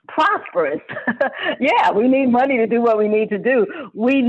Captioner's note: laughs